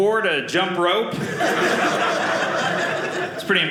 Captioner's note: audience laughing